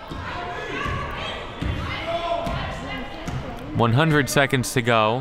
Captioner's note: ball pounding